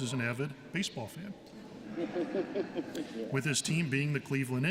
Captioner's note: laughter